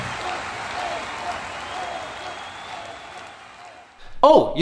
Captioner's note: cheering applause